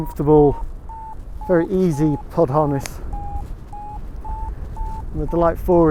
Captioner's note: Vario beeps